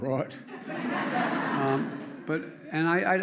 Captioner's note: laughter